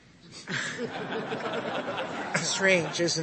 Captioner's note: laughter